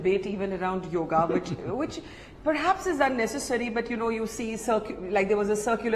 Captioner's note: Sadhguru laughs